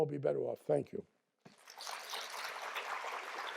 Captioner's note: applause